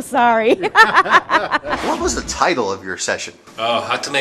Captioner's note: laughter